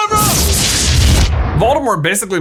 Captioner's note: explosion